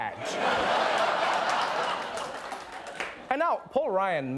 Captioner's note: laughter